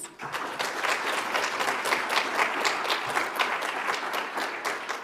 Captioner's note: audience applauds